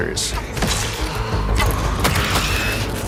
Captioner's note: loud splat